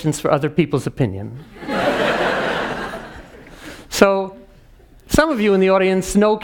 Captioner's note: laugh